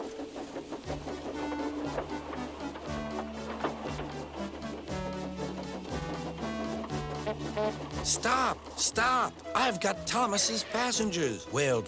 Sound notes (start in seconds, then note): 6.6 hoots